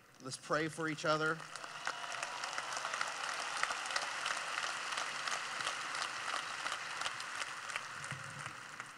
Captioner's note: clapping